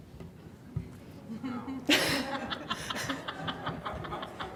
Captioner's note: laughing